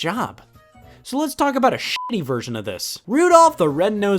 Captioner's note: beep